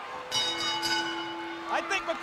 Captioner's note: bell rings